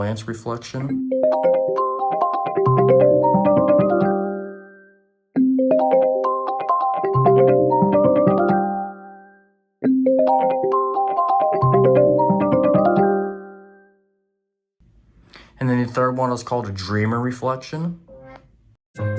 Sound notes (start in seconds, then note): 0.9 "Reflection - Buoyant" Ringtone Plays